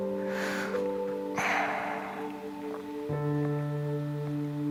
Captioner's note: sobbing